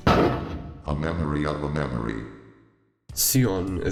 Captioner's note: text to speech